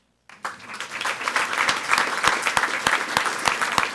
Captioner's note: people clapping